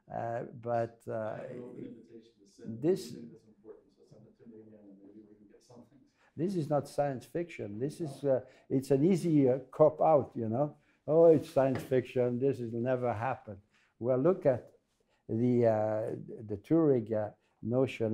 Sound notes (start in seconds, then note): 2.0 voiceover